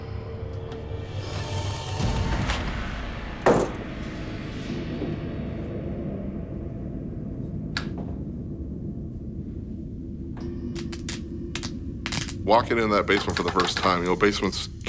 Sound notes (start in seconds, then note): 0.0 disembodied Voice; 0.0 whispers; 0.0 eerie music; 7.8 switch clicks; 10.7 lights crackle